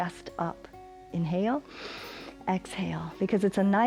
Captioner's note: inhales